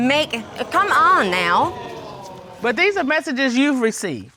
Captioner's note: audience exclaiming